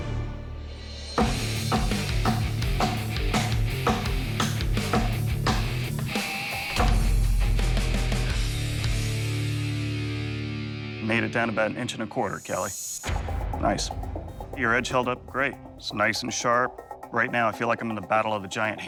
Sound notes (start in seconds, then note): 1.2 chopping sounds; 3.2 rock music